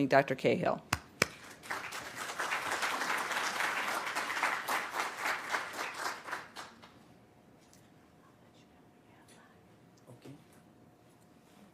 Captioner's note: applause